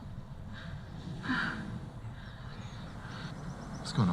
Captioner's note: heavy breath